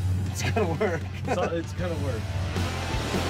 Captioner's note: laughs